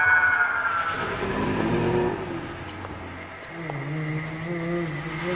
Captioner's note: Paul growling